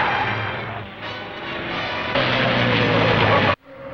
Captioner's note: brakes squealing